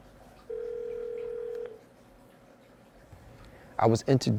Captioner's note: phone ringing